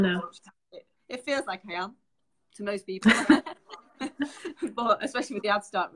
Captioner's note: both laughing